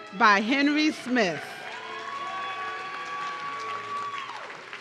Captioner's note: audience cheering